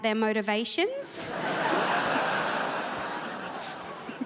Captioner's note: crowd laughs